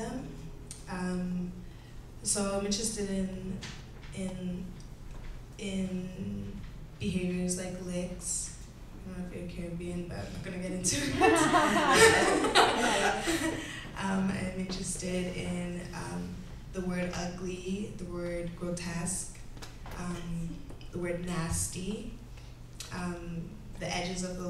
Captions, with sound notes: so I’m interested i-i-in, behaviours like licks? I don’t know if youre Caribbean background but we’re going to get into it. [Everyone laughs out loud]. Am I’m interested in um, the word ugly, the word grotesque, um, the word nasty, um, the edges of those